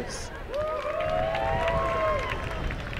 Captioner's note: applause